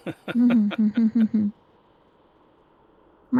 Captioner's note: laughing